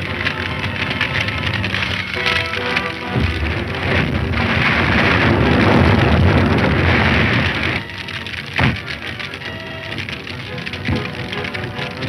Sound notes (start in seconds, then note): 0.2 dramatic music; 5.5 fire raging; 9.2 dramatic music